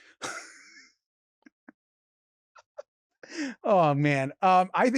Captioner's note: Robert laughs